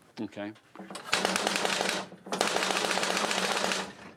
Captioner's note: flapping